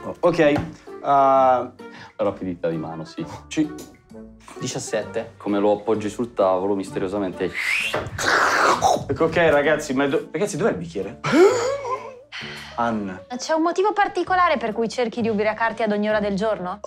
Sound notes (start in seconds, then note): 7.5 drinks loudly; 11.2 gasps